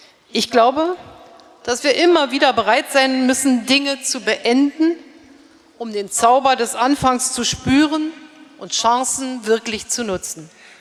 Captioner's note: speaking in German